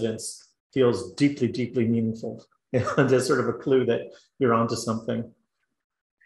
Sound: laugh

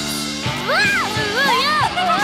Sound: cheering; laughing

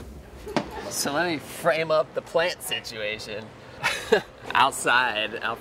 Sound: laughs

